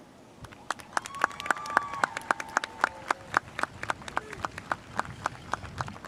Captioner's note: audience cheering and applauding